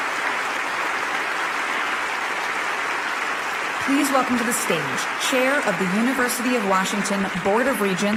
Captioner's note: applause